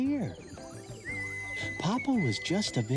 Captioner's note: whistling